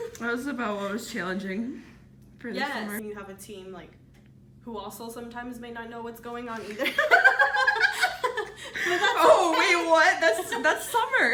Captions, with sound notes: It was about was challenging for the summer. Yes. You have a team like who also sometimes may not know what's going on either (laughter) But that's okay! Oh wait, what? That's, that's summer.